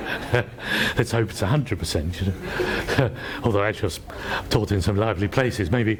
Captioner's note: laughs